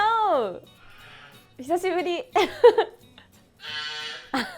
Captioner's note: laughs